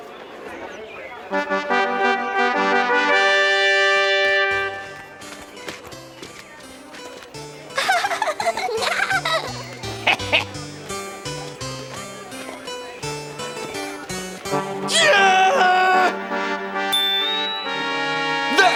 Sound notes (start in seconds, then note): 1.3 trumpets sound; 7.7 giggling